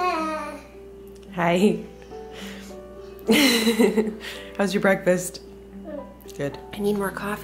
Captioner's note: laughs